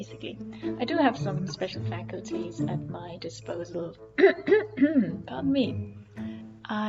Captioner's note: clears throat